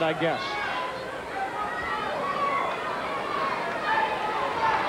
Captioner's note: crowd yelling